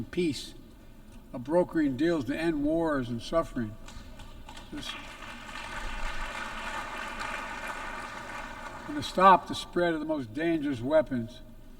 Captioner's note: applause